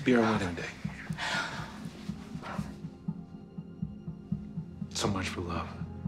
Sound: sighs

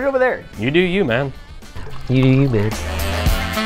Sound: mockingly

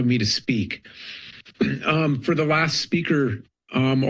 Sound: clears throat

